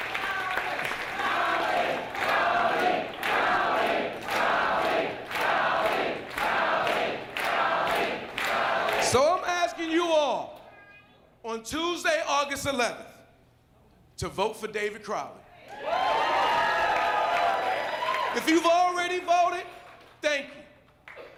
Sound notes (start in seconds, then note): 2.3 applause; 9.5 chanting "crowley"